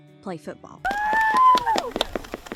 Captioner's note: cheers; claps